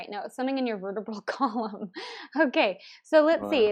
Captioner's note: laughs